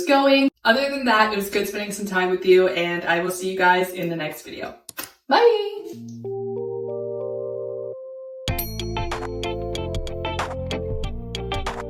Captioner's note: kiss